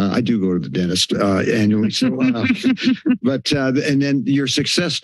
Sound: laughs

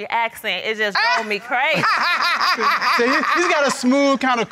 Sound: judge laughs

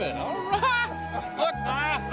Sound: laughter

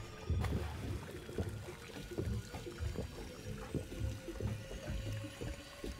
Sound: gurgling

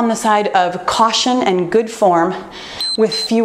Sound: timer beeps

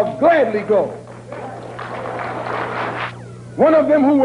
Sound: applause

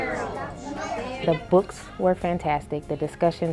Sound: classroom sounds

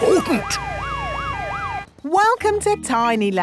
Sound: sirens wailing

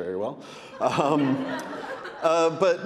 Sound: audience laughing

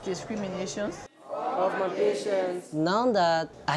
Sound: students reciting Oath of Office

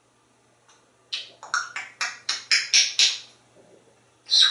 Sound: clicking Noises

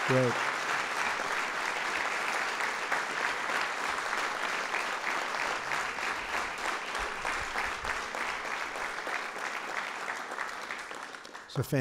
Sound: applause

